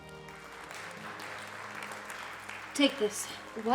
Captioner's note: crowd applauds